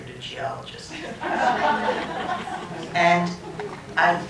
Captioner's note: laughter